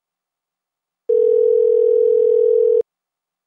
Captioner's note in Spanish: tono de espera